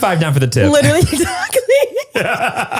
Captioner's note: laughter drowns out speaker